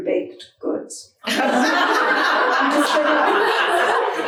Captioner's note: audience laughing